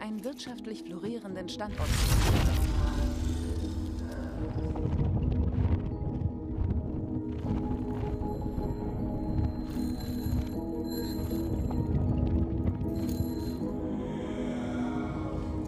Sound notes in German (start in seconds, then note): 6.7 fahrradklingel